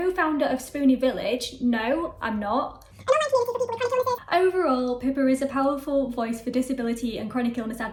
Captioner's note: sped up talking